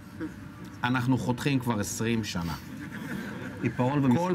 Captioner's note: laughs